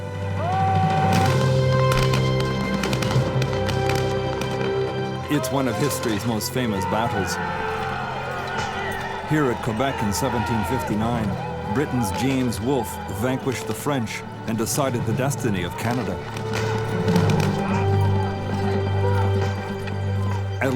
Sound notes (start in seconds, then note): 0.6 soldier yells; 1.1 guns banging; 1.4 dramatic music; 16.7 dramatic music; 16.7 soldiers yelling